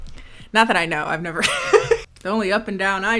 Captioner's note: laughing